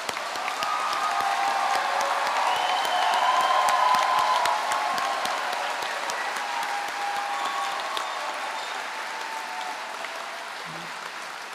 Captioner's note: applause